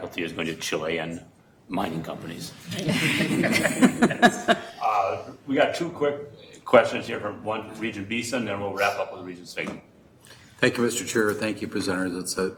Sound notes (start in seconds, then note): 2.7 all chuckling